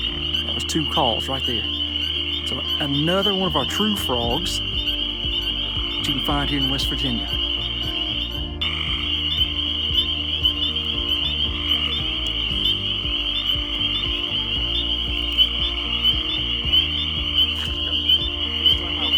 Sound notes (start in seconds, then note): 9.4 frogs peeping and chirping